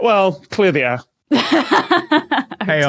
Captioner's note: laughs heartily